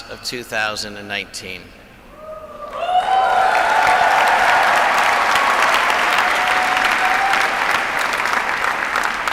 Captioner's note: applause